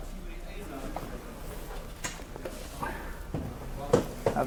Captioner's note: people chattering